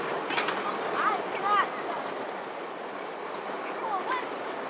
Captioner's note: children chattering